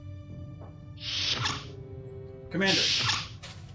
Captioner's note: sounds: Outer door opening and closing